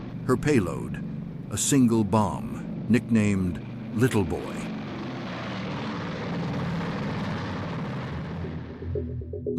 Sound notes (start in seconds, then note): 6.4 engine roar